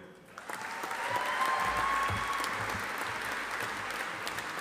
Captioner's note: audience applauding